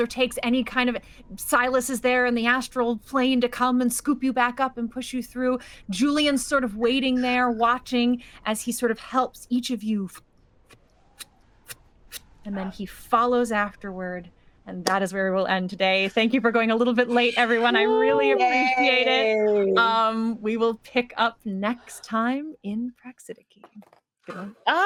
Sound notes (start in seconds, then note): 10.9 whooshing